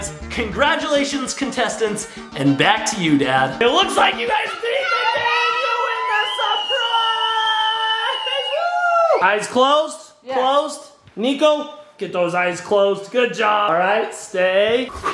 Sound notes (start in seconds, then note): 4.8 cheering; 7.4 screaming; 14.9 panting